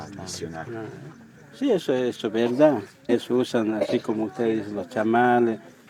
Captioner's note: speaking Spanish